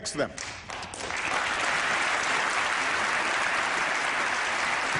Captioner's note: applause